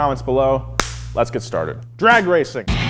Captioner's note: claps